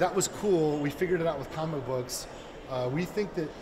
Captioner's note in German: Er spricht weiter auf Englisch